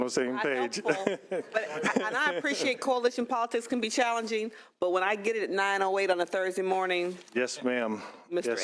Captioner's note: laughs